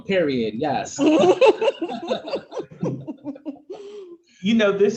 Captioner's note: panelists laughing